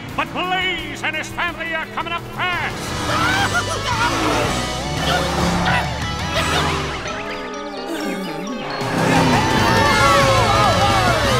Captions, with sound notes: but Blaze and his family are coming up fast! [screaming] [cheering]